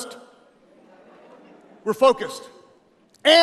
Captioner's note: audience laughing